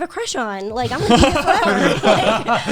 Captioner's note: guys laughing